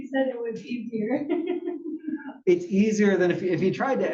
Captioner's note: laugh